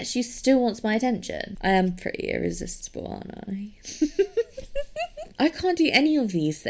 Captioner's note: giggles